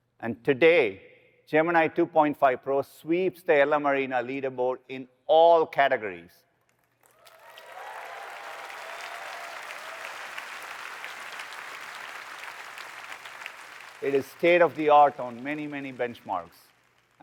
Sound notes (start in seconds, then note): 6.7 applause